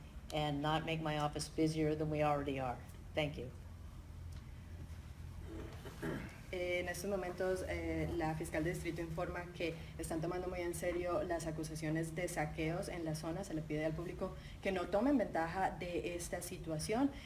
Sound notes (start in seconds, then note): 4.7 talking in Spanish